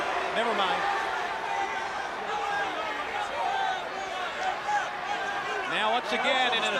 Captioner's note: crowd cheering